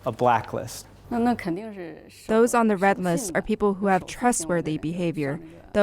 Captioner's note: through translator